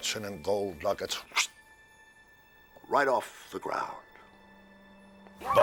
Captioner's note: imitates sharp wind